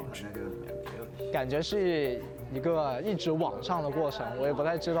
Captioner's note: speaking Chinese